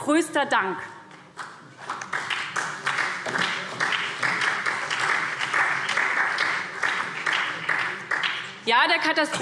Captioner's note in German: Beifall SPD, BÜNDNIS 90/DIE GRÜNEN und DIE LINKE